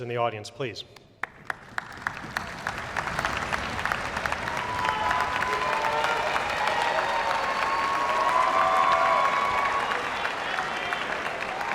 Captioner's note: applause and cheers